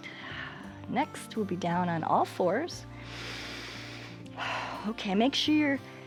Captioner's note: inhales and exhales